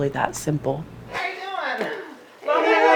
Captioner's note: chatter